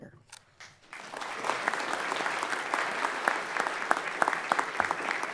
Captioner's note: everyone applauds